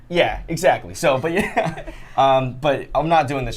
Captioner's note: laughs